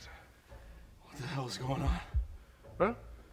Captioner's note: quietly